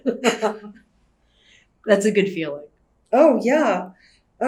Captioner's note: laughs